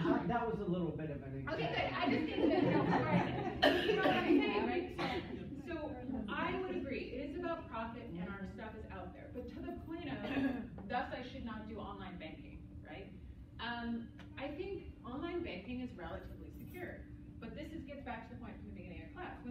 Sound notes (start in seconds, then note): 3.7 laughter